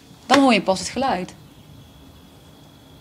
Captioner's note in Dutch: Fluitende vogels